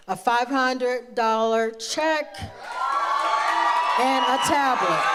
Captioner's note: audience cheers